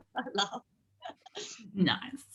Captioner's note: both laugh